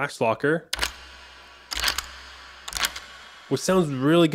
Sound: lash locker sounds

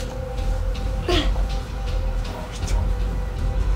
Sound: grunts

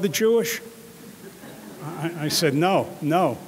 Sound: audience laughing

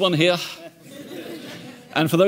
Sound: audience chuckling

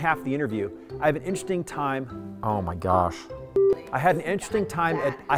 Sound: beeping

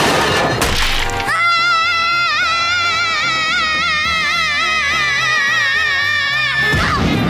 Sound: screaming

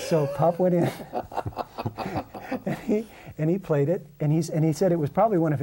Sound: laughter

